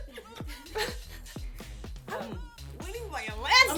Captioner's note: laughter